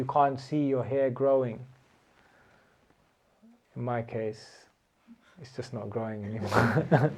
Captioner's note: laughter